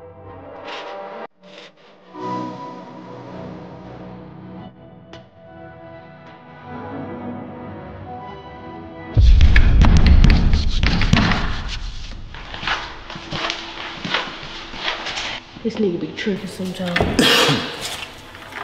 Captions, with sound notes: (intense hip hop music) (knocking) - This nigga be tripping sometimes.